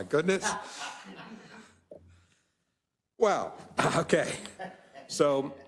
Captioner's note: laugh; laugh